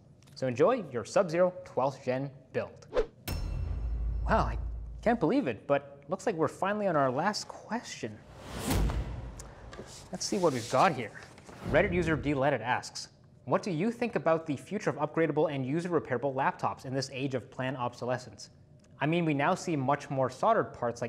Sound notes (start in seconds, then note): 3.3 metal clanking; 8.2 air whooshing